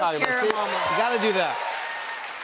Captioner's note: cheers and applause